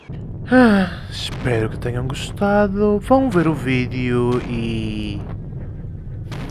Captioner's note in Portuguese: suspiro